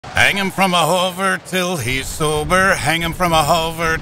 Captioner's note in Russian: Клайд напевает себе под нос